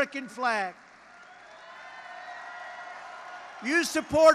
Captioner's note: applause